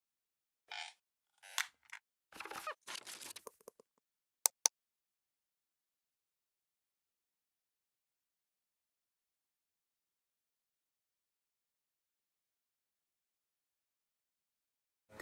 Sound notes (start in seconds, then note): 0.0 clicking; 0.0 rustling; 0.0 squeaking